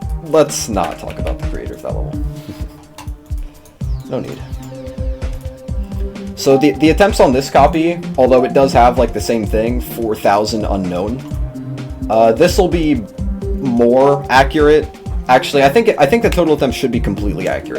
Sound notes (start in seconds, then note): 2.3 chuckle?